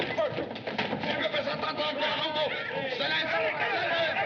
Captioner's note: shouting In French; bar Patrons Shouting